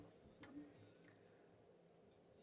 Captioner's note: speaking French